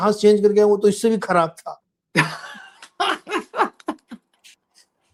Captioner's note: laughter